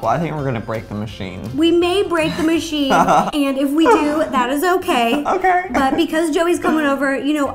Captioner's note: chuckle